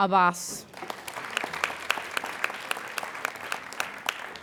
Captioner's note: applauding